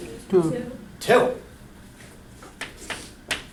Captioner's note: voiceover